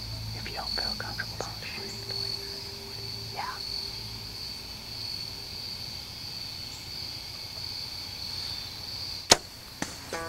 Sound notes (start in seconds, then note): 2.7 whispering